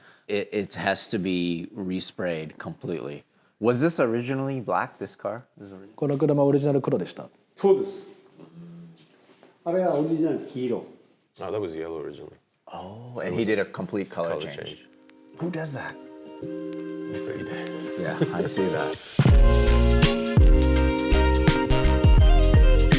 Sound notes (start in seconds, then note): 6.1 men speaking Japanese; 18.1 laughs; 19.2 upbeat techno music